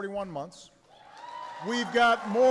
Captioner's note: applause